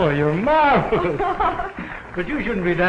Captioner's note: laughter